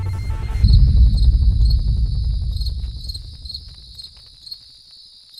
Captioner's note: cloud booming; crickets chirping